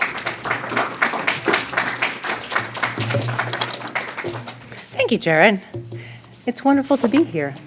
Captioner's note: applause